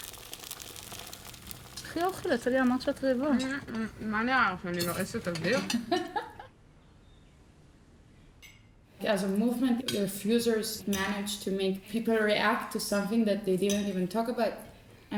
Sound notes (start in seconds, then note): 1.5 speaking foreign language; 5.8 laughing